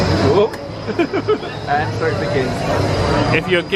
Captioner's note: people chattering; laughs